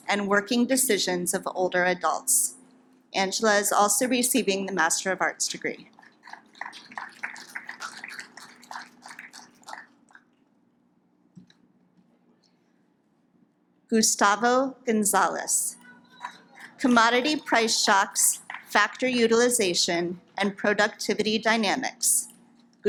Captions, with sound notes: and working decisions of the older adults. Angela is also receiving the master of arts degree. (audience claps) Gustavo Gonzales, commodity price shocks, factor utilization and productivity dynamics.